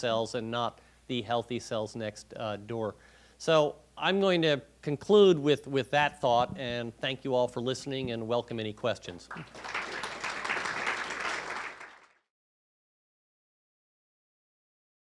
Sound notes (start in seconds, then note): 9.3 clapping